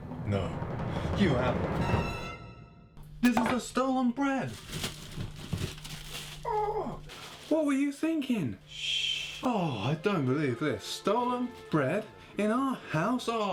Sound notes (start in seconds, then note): none